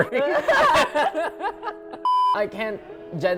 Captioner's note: both laughing